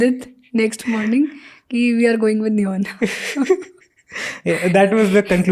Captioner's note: speaks in Hindi